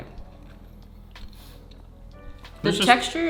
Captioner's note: chewing